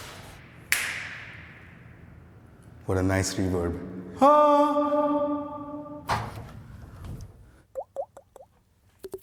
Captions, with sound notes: (snaps fingers, echoes) What a nice reverb. Ahhh! (reverbs)